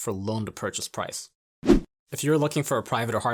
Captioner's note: air whooshing